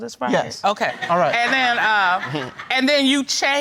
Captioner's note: audience laughs